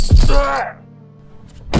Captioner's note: Ned groans